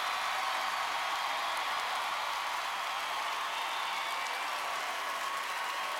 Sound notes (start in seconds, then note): 3.3 applause and cheering